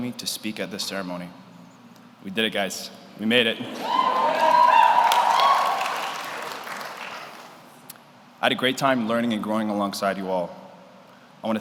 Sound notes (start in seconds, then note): 3.6 audience cheers; 3.7 audience applauds